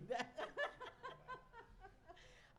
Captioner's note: laughs